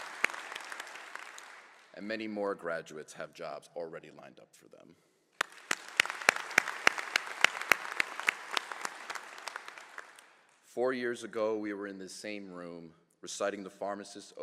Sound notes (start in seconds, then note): 3.5 applause